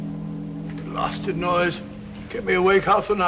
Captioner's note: ships horn blowing